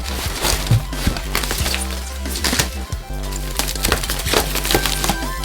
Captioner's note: cardboard and tape crinkling; techno music